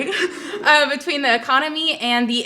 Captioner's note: audience chuckles